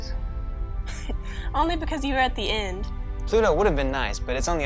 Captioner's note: laughs